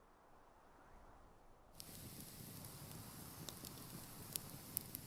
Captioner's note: wind whistling; fire crackling